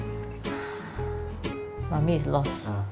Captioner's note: sighs